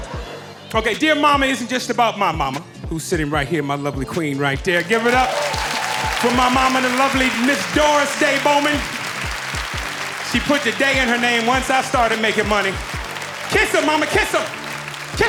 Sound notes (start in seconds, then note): 5.2 audience applauding